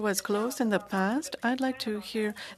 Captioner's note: speaking French